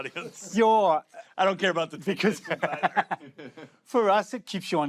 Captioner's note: laughter